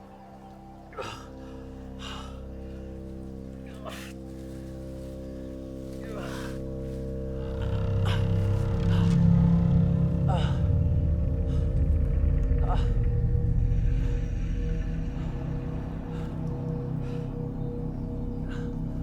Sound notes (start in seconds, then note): 7.9 Arawn groaning; 15.3 Arawn breathing heavily